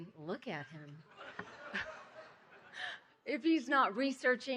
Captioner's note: laughing